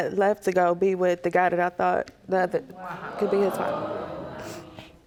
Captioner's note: audience gasping